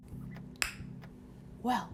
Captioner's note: lip smack